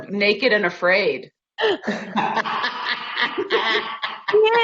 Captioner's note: laughing